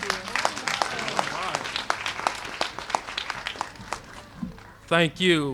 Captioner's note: applause